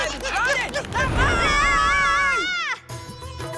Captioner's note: screaming; upbeat music